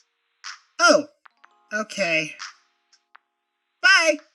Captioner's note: none